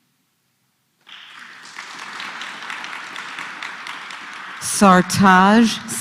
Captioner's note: applause